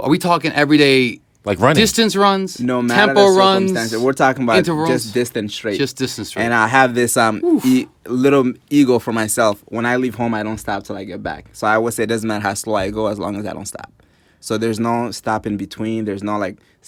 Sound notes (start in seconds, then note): 7.4 oof